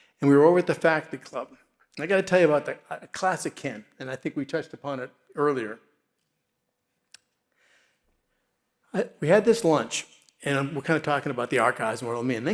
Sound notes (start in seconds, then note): none